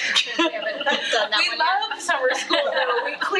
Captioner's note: attendees laughing